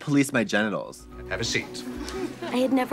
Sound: students giggling

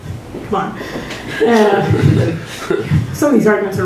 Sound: laughter

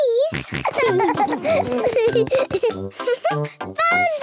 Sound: snorting and giggling; giggling

